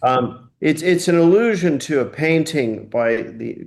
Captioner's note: laughing